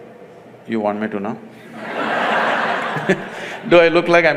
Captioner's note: laughter; laughs